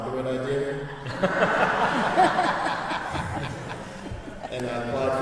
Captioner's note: laughter